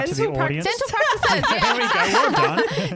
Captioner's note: laughing together